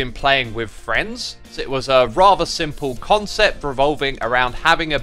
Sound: none

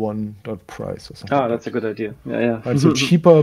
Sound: laughs

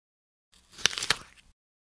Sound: crunch

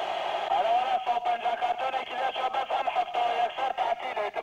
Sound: Arabic spoken audio

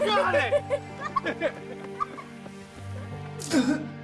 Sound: Joslyn laughing; Josiah retching and spitting

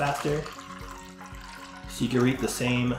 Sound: water pouring

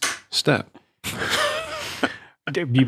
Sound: all guffaw

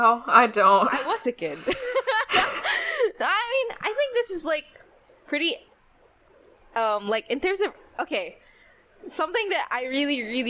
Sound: laughs

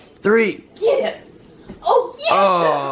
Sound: cheers

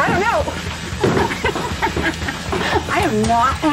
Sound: laugh

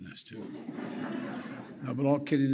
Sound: laughter

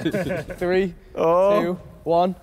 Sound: all laughing

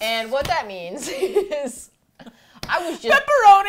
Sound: laughs

